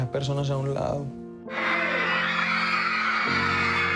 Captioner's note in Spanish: fanáticas aclamando